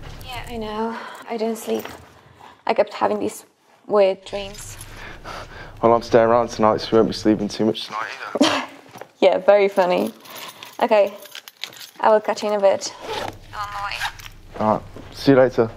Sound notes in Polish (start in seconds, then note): 8.4 śmiech